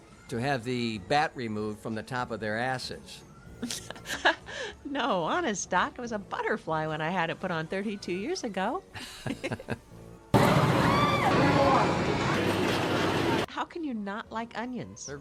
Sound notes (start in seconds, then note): 3.6 laughs; 9.0 both chuckle; 10.3 people jelling; 10.3 rides whooshing